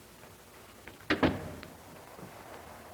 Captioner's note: door closes